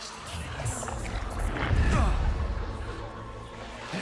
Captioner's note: grunts